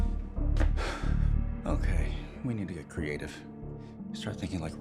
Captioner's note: sighs